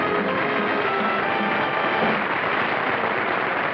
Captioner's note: applause